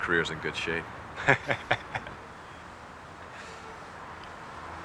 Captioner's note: Boris laughing